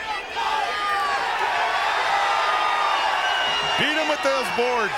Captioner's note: crowd cheering